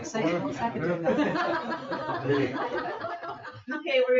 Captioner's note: people chatter and laugh; people laugh